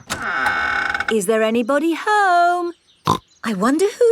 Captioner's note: door creaks; snorts